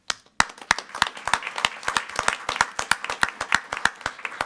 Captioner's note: group clapping